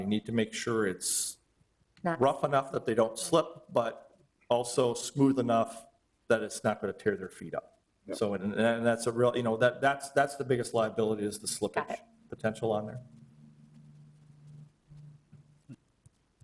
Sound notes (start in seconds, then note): none